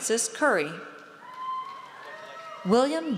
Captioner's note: audience cheers